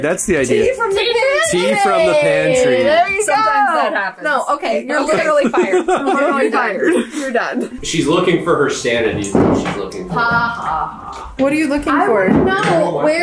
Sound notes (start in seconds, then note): 5.1 laughs